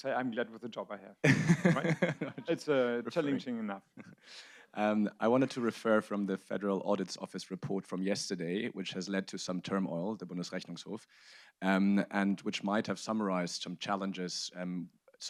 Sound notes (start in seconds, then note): 1.2 audience laughs